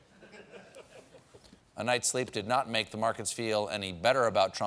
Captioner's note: laughter